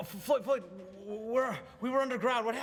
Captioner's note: none